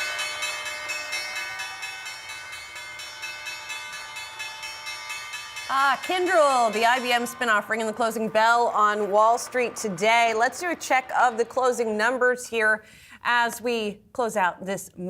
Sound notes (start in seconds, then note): 0.0 bell ringing